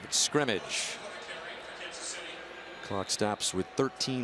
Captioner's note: pa announcement